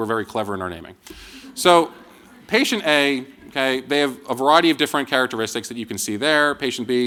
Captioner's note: laughter